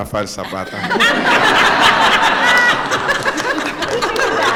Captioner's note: laughter